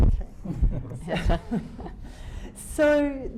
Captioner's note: laughing